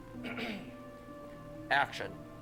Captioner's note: clears throat